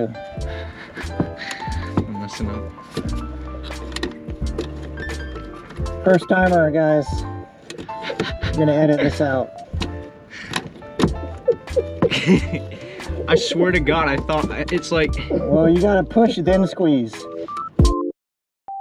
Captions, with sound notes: First timer guys! We're going to edit this out. (Laughing) I swear to God, I thought... it's like. You gotta push, then squeeze.